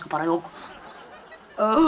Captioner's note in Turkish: Gülme efekti